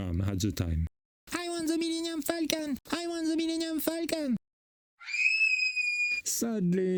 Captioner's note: scream